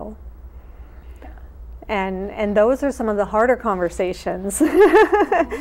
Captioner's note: laughs